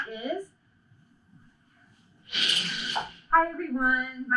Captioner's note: dramatic curtain opening